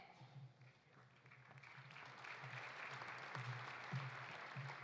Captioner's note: audience applauding